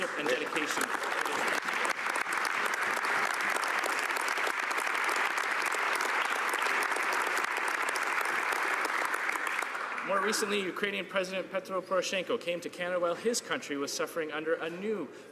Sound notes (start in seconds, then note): 10.0 applause